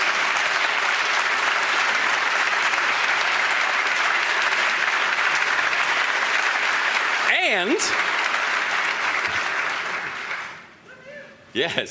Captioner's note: applause